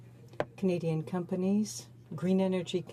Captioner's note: speaking French